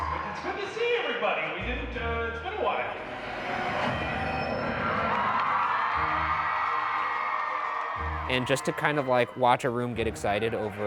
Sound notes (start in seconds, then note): 3.0 logo whooshing; 5.7 crowd cheering